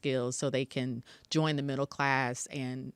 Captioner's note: none